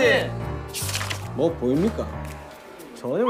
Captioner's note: mysterious footstep